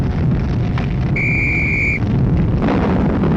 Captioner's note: whistle blowing